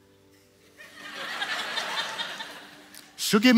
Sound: audience laughs

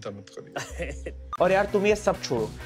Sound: chuckles

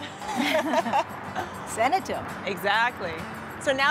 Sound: laughter

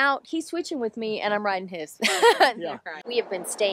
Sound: laughs

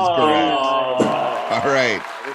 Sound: groaning

